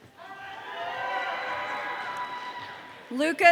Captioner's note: audience cheering